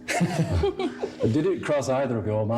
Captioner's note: laughs